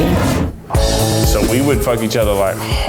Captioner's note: air whooshing